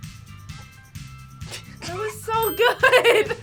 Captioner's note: both laugh